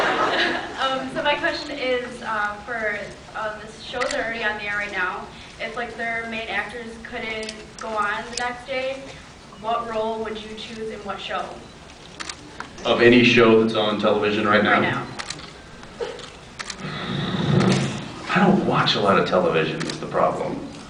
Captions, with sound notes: [laughs] Um, so my question is uh for uh the shows that are already on the air right now, if like their main actors couldn’t... go on the next day, what role would you choose in what show? Of any show that’s on television right now? Right now. [blows into mic] I don’t watch a lot of television is the problem.